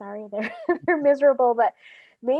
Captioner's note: laughs